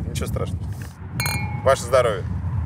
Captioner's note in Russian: звон бокалов